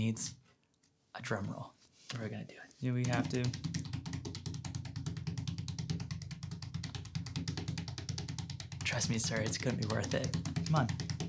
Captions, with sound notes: needs a drum roll. And we're gonna do. - You know, we don't have to. (tapping) Trust me sir, it's gonna be worth it. - Come on.